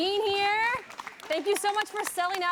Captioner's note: audience applauding